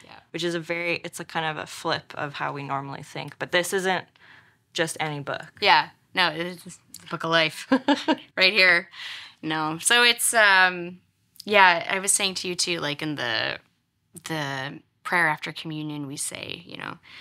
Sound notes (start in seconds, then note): 7.6 laughs